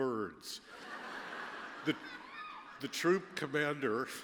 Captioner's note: laughter